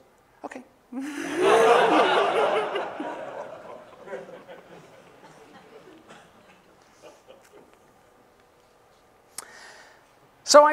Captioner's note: laughter